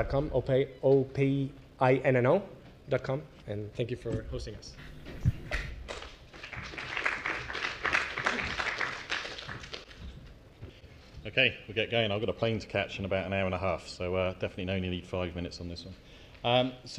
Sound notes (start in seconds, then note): 5.8 applause